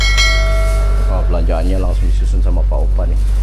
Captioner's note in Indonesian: lonceng